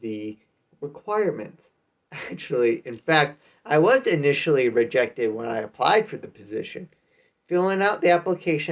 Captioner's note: chuckles